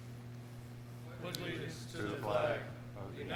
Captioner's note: crowd